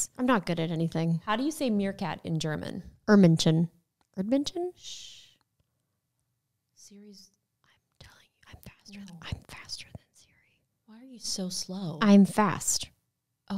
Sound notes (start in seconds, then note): 4.2 foreign language; 7.8 whispering